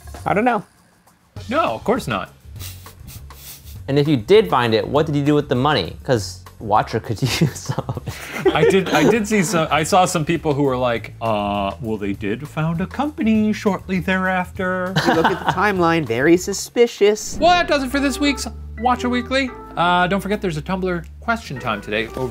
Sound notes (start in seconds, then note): 3.1 chuckles; 14.9 laughs